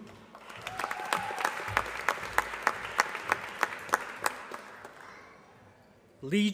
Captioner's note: applause